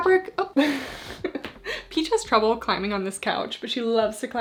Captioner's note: laughs